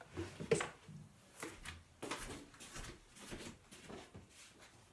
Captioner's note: footsteps walking